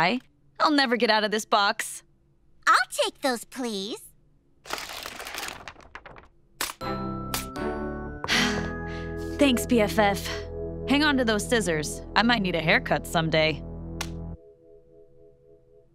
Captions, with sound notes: I'll never get out of this box. I'll take those, please. [sighing] Thanks, BFF. Hang on to those scissors. I might need a haircut someday.